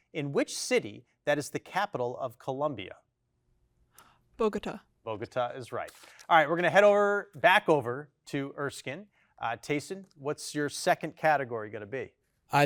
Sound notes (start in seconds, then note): none